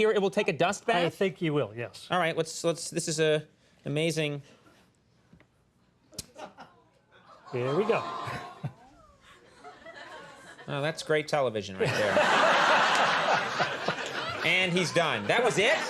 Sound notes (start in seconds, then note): 6.2 audience coos; 11.8 audience laughs